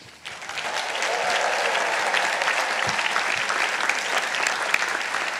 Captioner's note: participants applauding